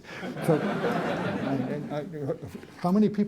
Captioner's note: laughter